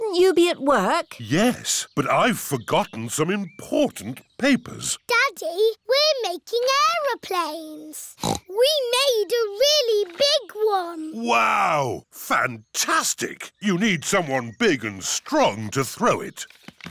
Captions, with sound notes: Shouldn't you be at work? Yes, but I've forgotten some important papers. Daddy, we're making aeroplanes. (SNORTS) We made a really big one! Wow! Fantastic. You need someone big and strong to throw it.